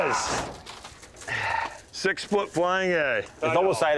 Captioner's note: sighs